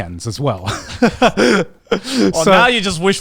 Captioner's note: laughs